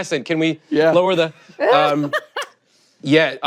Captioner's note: laughter